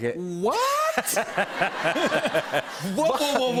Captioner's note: laughter